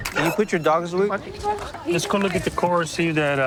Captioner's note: none